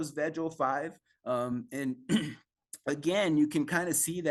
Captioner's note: coughs